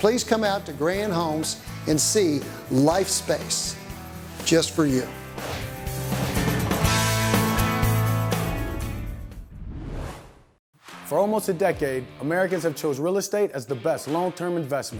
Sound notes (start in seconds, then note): 7.2 whoosh